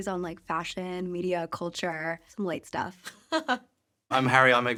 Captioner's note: laughs